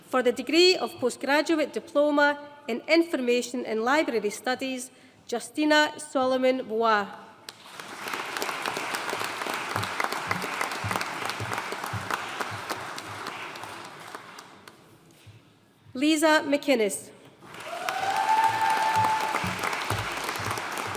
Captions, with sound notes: For the degree of Postgraduate Diploma in Information and Library Studies, Justina Solomon Buwah. (AUDIENCE APPLAUDING) Leesa McInnes. (AUDIENCE CHEERING AND APPLAUDING)